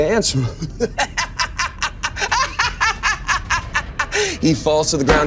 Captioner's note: laughing hysterically